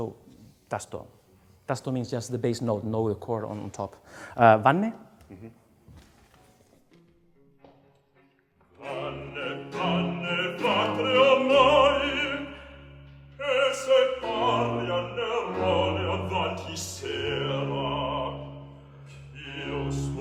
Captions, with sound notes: So [SPEAKS IN FOREIGN LANGUAGE], means just the bass note, no chord on top. [SPEAKS IN FOREIGN LANGUAGE]. - Uh hmm. [BAROQUE OPERA MUSIC]